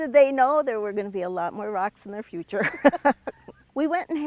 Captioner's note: laughs